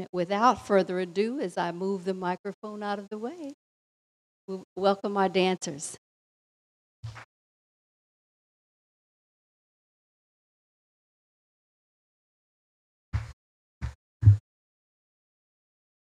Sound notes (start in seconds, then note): none